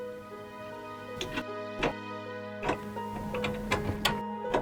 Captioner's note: door closes; lock clicks